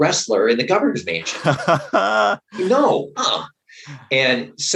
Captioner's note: laughter